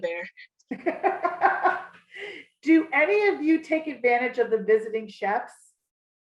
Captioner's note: laughs